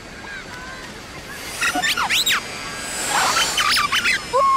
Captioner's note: drone beeping